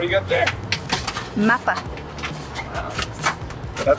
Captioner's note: speaking in foreign language